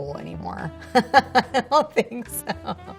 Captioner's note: Scarlett laughs